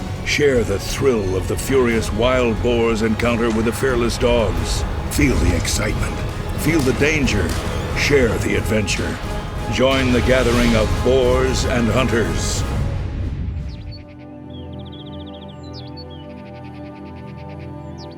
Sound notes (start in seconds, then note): 13.5 birds calling; 14.1 soft music